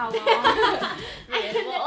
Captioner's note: laughs